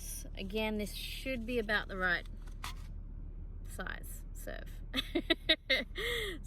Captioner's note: chuckles